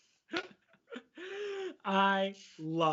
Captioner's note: laughing